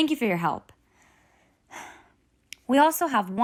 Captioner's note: sigh